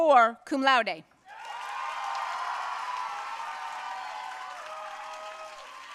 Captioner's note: audience cheering and applauding